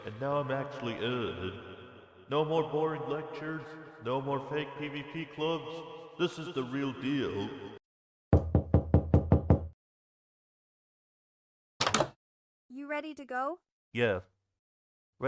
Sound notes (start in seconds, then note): 8.3 door Knocks